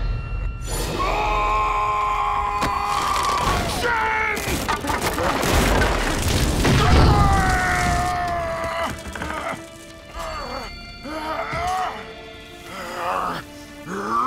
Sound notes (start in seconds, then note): 0.8 screaming; 6.7 screaming; 9.9 groaning